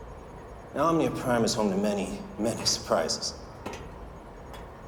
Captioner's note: none